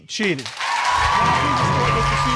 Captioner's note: audience applauding